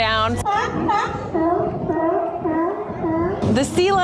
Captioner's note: sea lions barking